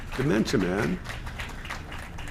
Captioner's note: applause